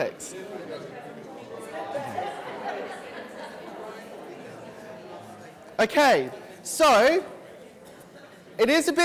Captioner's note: audience chatter